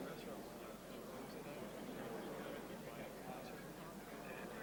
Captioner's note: crowd murmuring